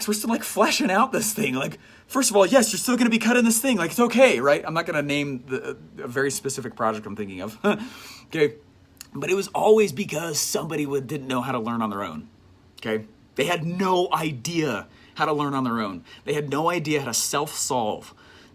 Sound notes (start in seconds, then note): none